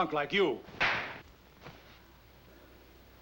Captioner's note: slapping